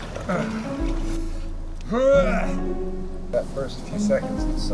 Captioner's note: David groaning